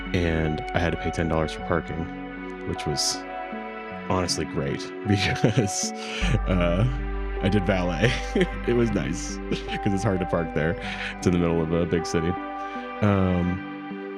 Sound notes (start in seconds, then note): 5.1 laughs